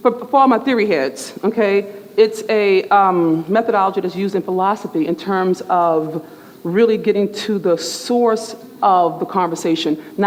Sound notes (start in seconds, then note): none